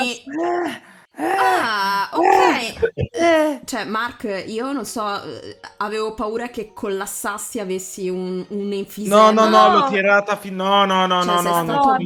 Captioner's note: dying in the BG